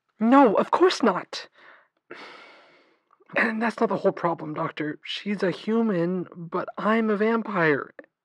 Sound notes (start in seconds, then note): 2.1 exhale